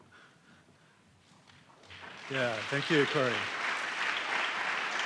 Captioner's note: applause